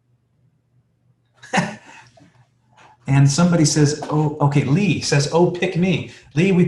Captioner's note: laughs